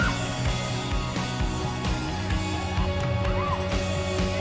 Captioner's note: children playing